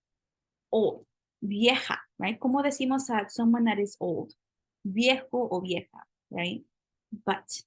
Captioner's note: spanish